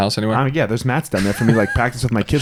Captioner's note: laughs